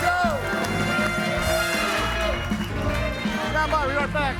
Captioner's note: audience cheering; bright music